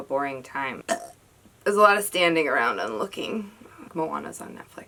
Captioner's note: burp